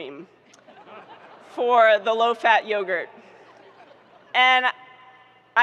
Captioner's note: audience laughing